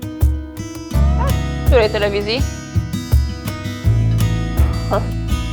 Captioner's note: gentle upbeat music; speaks foreign language